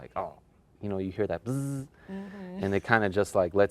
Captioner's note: buzz